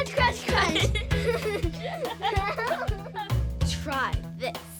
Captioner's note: laughing